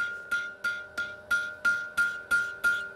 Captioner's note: hammering